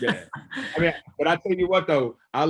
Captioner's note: laughs